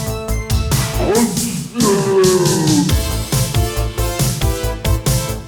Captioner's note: slow-mo shouting